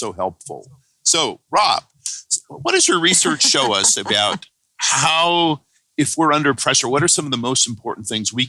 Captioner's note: laughter